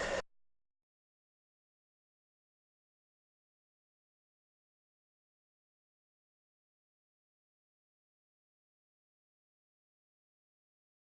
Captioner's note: silence